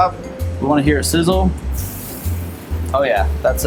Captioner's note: sizzling onion